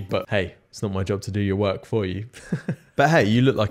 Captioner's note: laughs